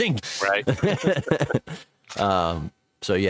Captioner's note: laughs